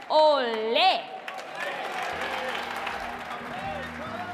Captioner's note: audience clapping